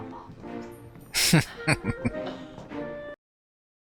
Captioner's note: chuckling